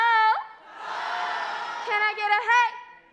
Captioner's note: crowd